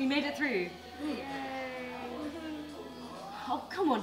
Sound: yawns

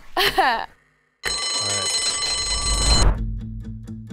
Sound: bell rings; suspenseful music

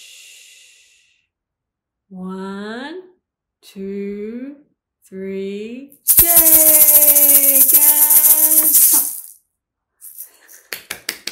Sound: clapping

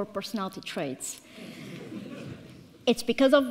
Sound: audience laughs

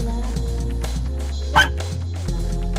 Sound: bark

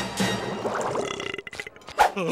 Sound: belching; Patrick laughs

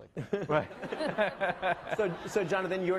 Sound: laughing

